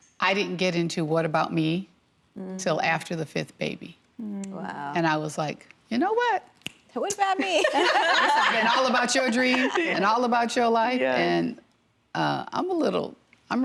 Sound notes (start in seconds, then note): 7.4 women laughing